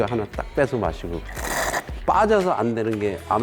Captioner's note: slurp